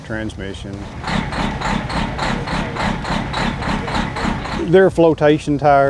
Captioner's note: engine rumbling